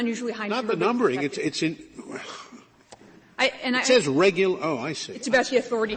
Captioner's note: laughter